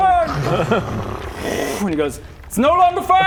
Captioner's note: whoosh